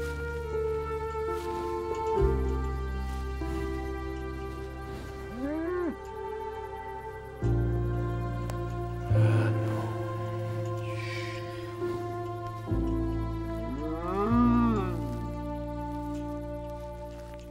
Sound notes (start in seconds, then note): 4.4 lowing; 13.6 cow moos weakly